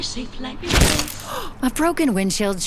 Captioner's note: windshield cracks